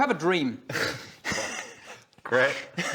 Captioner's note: betrayed laughter